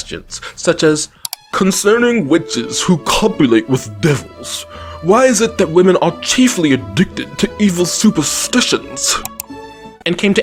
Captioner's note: in bad British voice